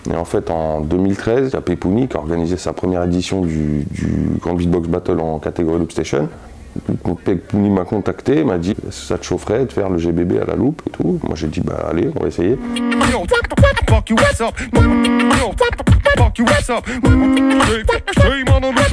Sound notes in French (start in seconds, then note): 12.5 beatbox